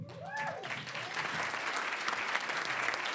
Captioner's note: cheering, applause; applause